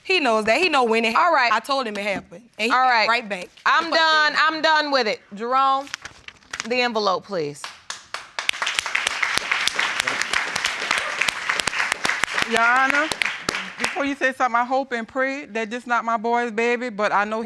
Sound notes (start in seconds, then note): 7.8 crowd applauds